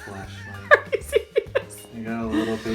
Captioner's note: laughing